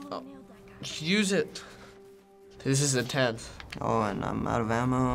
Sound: none

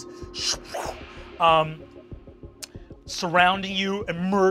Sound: growls

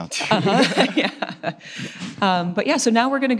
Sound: all laugh

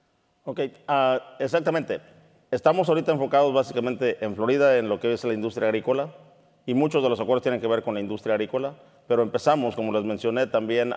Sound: speaking in Spanish

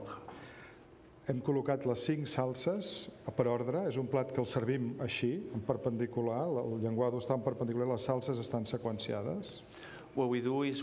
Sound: speaking catalan

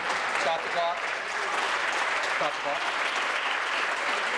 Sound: applause

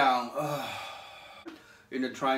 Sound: exhales

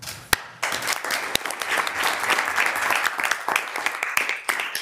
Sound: audience applauding

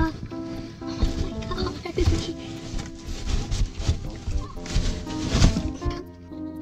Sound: giggling

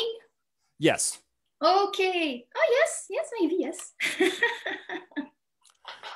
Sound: chuckles

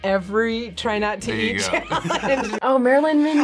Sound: both laugh

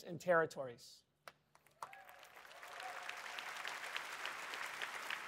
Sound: applause

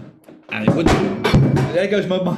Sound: crash

